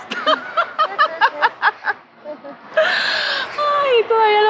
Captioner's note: laugh